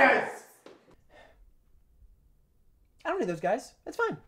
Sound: sighs

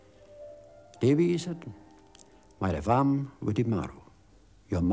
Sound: Welsh spoken audio

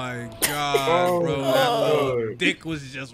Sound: group laughing

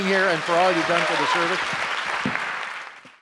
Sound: audience applause

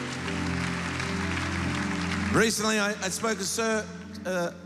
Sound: applause

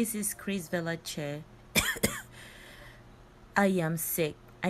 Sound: cough

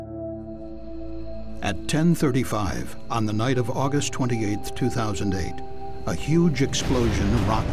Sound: sound of explosion

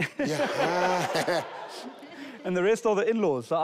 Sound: audience laughing

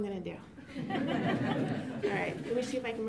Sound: laughter

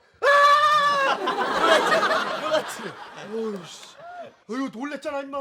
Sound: screaming

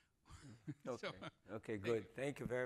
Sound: laughing

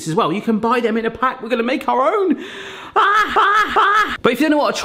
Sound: yelping

